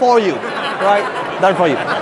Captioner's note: laughing